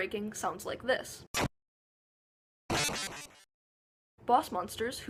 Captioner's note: breaky breaky SOUL noises